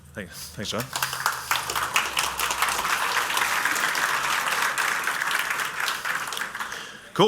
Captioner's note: applause